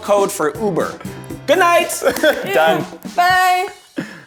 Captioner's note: laughs